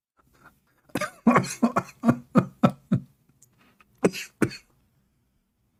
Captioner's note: Ketawa